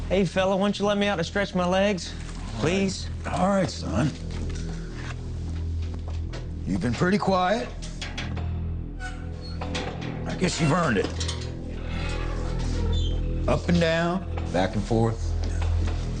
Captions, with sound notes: - Hey fella, won’t ya’ let me out to stretch my legs, please? - All right, son. You’ve been pretty quiet. (door squeaking and clanging) I guess you’ve earned it. (door squeaking) Up and down, back and forth.